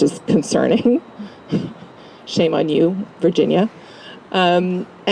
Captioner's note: laugh